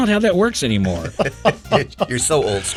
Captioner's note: person laughing